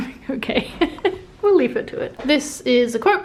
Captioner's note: speaker laughing